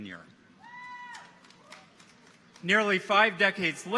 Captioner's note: people cheer